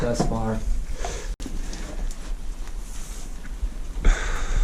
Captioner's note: heavy breathing